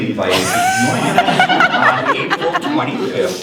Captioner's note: laughter